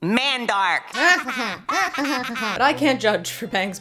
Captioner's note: imitates character